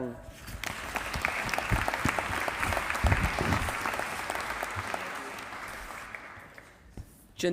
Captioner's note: applause